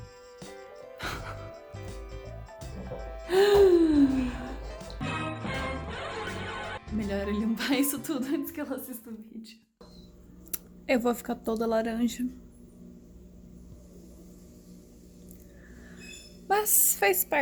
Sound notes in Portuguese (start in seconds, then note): 2.9 inspira dramáticamente